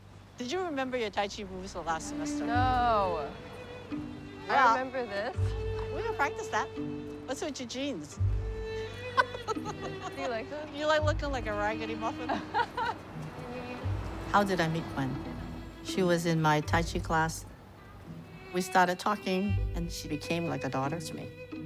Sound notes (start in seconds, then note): 8.7 laughs; 12.0 laughs